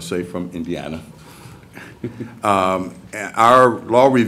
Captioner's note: laughter